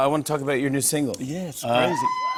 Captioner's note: cheers